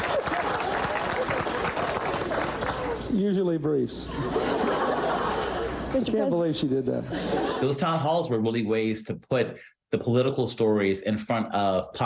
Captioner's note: laughter